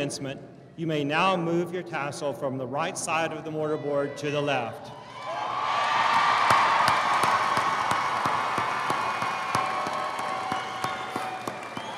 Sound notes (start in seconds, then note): 5.1 audience cheering; 5.7 audience applauding